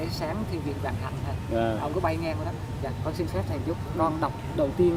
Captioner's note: speaks in foreign language